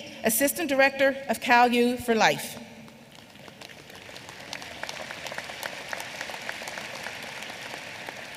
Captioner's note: applause